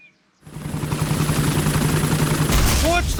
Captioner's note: whirring; thuds